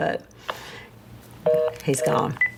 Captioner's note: phone beeps